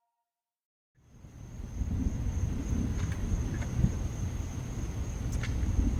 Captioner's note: thunder rumbling